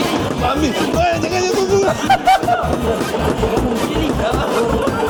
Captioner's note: laugh